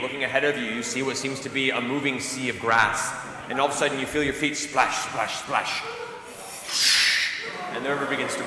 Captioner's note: splashing